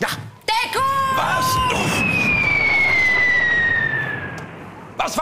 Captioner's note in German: Pfeife eines Artilleriebeschusses, ohne Explosion